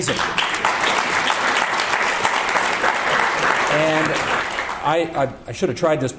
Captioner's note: audience applause